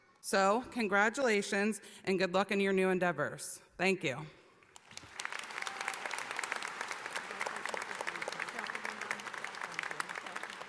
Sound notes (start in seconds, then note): 4.7 audience applauding; 4.7 clapping drowns out speech